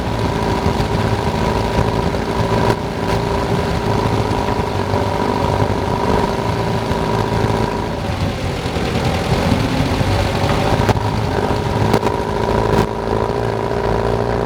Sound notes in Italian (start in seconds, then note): 0.6 Suono aspirazione AR59